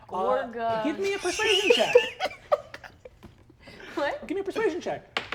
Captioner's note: laughs